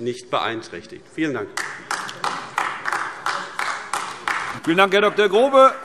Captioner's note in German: Beifall AfD